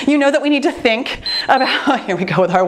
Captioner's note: timer beeps